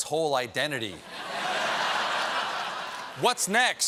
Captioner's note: laughter